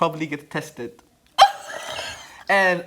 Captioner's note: laughter